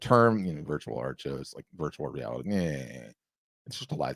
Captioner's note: scoffs